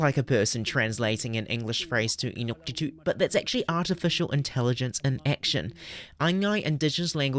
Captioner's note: speaking Indigenous language